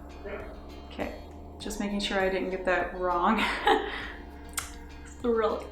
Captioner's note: laughs